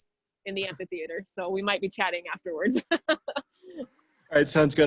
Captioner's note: chuckles